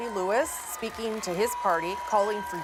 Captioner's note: cheers and Applause